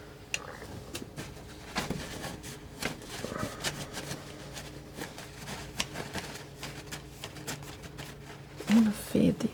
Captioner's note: scratching